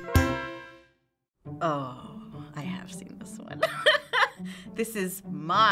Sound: quirky interlude; laughing

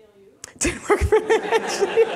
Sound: laughing

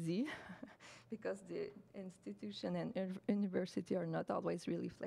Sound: chuckles

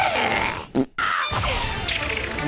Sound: fart

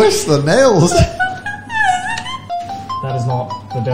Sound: high pitched laughter

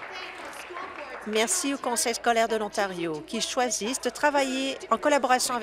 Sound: applause

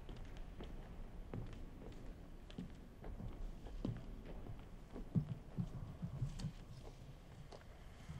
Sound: footsteps

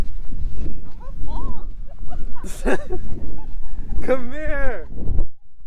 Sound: laughing

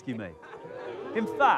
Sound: crowd oohs

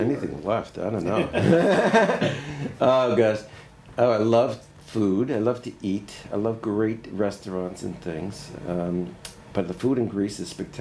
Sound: laughter

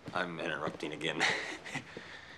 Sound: chuckles

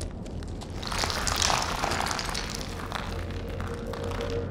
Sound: small rocks fall

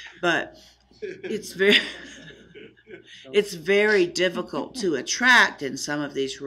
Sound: laughing

